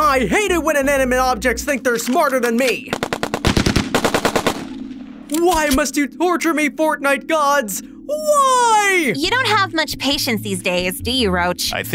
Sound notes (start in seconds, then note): 2.6 guns blaring